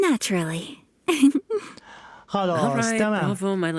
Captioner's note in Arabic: إيمي تضحك